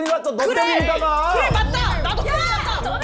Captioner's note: explodes